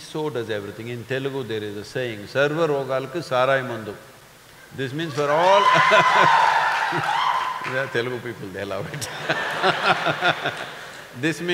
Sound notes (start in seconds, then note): 2.4 speaks in Telugu - not transcribed; 5.1 laughs; 5.1 cheering/Applause; 8.8 laughter